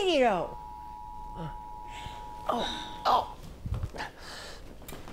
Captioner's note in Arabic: صوت صفير منخفض رتيب